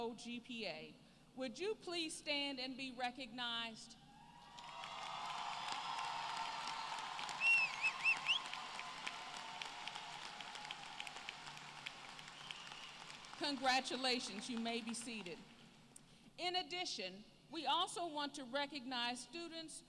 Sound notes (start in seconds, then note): 4.4 applause